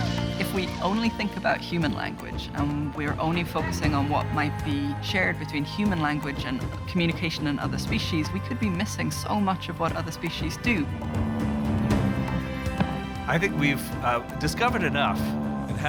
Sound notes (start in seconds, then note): 11.0 buzzing, thumps